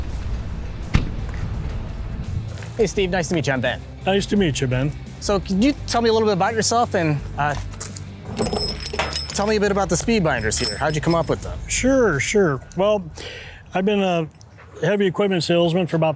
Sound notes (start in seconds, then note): 0.9 door thuds; 7.6 metal jangles